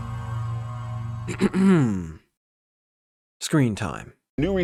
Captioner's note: clears throat